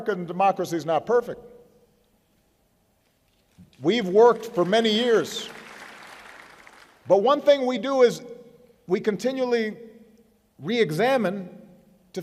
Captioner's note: applause